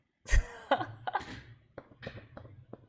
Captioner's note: laughs